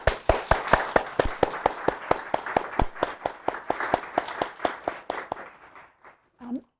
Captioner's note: audience applauding